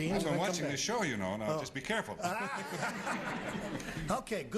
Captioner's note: laughing